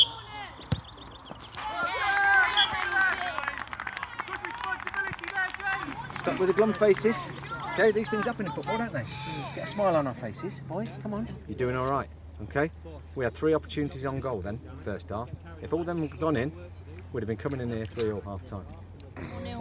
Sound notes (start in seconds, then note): 1.5 cheers